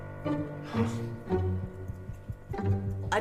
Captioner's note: mimics heart beat